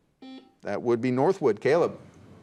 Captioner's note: buzzer beeps